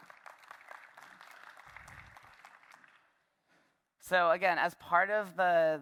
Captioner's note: applause